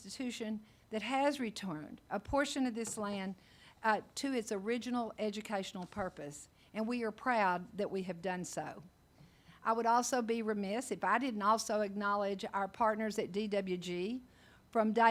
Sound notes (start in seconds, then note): none